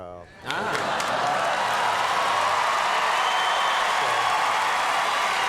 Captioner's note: audience cheers and applause